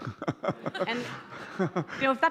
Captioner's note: laughing